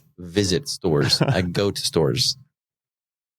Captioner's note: chuckles